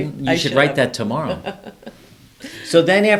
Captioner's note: laughs